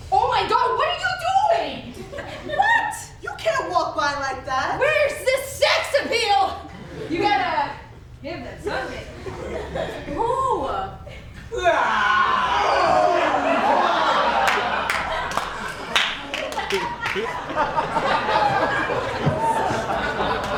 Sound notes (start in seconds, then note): 11.5 men groan together; 12.2 audience laughs